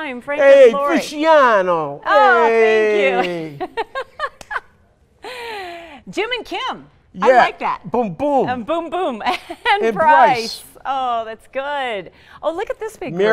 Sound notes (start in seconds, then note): 2.8 laughing